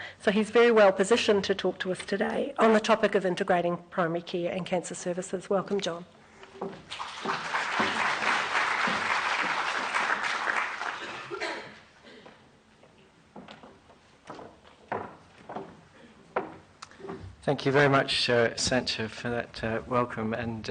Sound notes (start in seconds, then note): 6.8 applause